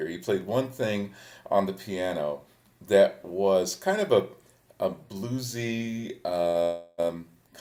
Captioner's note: none